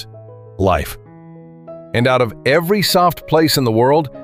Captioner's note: thoughtful